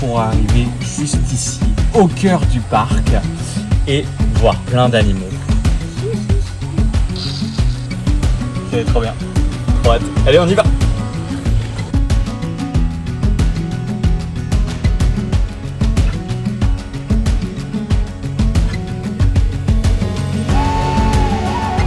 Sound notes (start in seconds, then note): 5.9 laughs satisfied